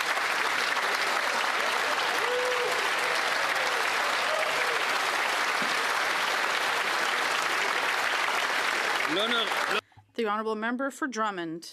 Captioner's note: some Applause